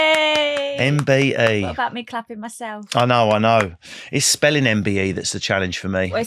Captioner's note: cheering